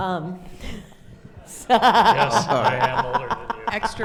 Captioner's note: laughs